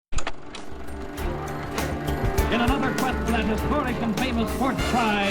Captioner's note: movie projector hums